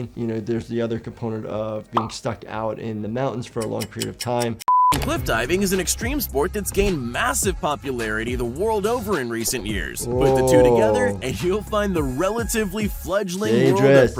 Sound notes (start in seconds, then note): 4.6 screen beeps